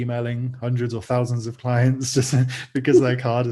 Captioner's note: chuckles